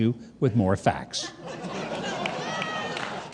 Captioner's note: audience laughing